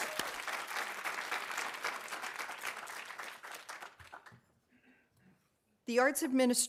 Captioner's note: audience cheering; audience applauding